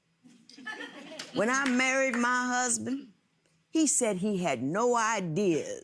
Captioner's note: audience chuckles